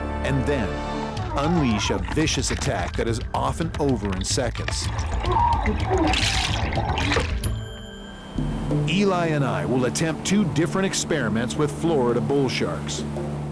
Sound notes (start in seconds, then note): 1.1 diver gurgling; 5.2 muffled diver exclaiming; 5.3 water bubbling; 8.3 intense orchestral music